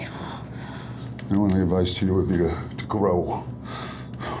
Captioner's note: breathing heavily